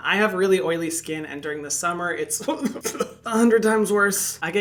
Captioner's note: scoffing